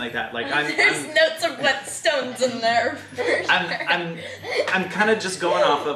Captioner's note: laughs